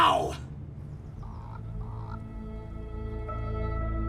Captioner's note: birds chirping; gentle music